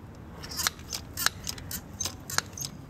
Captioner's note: clacking